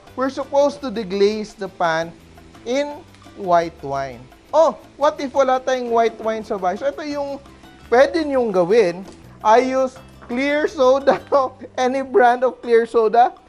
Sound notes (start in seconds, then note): 0.1 sizzle